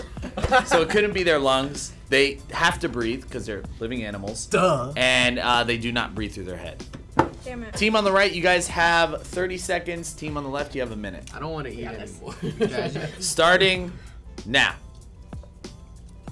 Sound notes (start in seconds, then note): 12.3 laughs